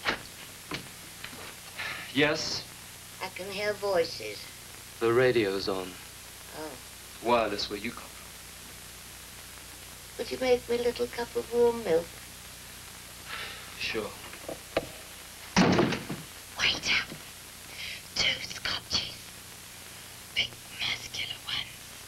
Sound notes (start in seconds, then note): 16.4 jill, whispering